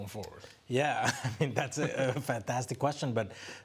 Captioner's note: laughs